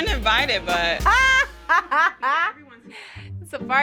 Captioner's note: laughing